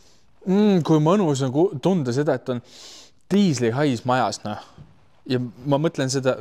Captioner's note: sniffs